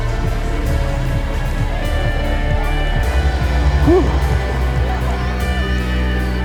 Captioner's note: spectators cheering; uplifting music